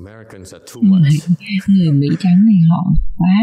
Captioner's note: laughter